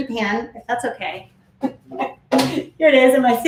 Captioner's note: laughs